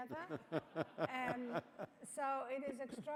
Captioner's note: laughing